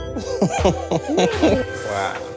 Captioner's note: laughter